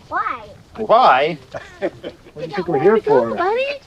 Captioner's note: person laughs